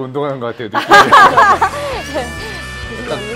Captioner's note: hahahahahahaha